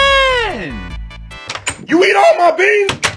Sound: de opening door

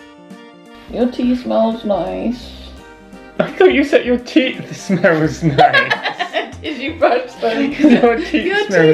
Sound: laughing

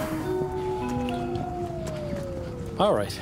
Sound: siren

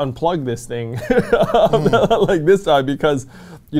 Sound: laughs

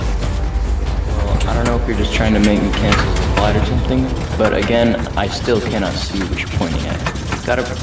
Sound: echoing Voice

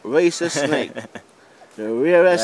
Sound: laughter

